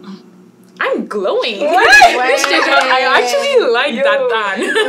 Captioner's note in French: rires